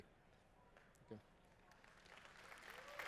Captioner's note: applause